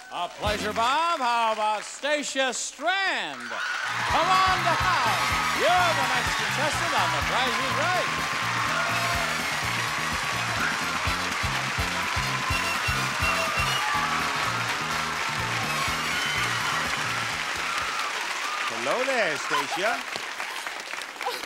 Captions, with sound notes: - A pleasure Bob, how about Stasia Strand? Come on down, you're the next contestant on The Price is Right! (excited music) (audience clapping) - Hello there Stasia.